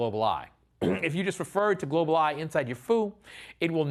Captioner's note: cough